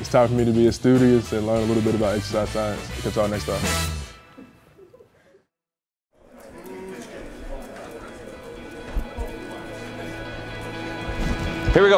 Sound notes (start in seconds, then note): 6.2 crowd speaking softly; 8.0 bright music